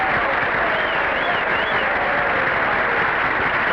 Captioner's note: applause; crowd whistling; crowd cheering